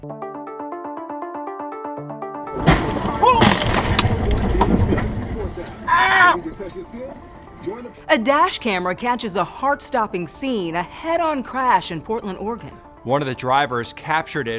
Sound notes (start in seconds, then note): 0.1 mysterious music; 2.6 car crunching; 4.5 radio announcer talking faintly; 5.8 screaming